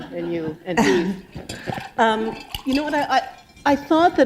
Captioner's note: laughter